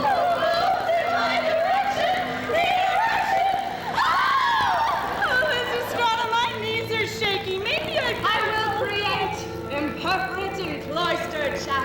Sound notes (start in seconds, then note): 3.8 women scream